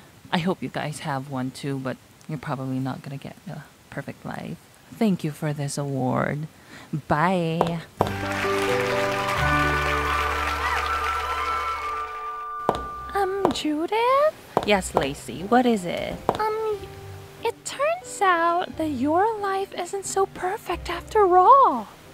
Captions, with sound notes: I hope you guys have one too, but you're probably not gonna get the perfect life. Thank you for this award. Bye! (audience cheers) Umm, Judith? Yes, Lacey. What is it? It turns out that your life isn't so perfect after all.